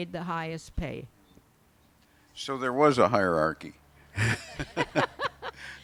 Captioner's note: laughs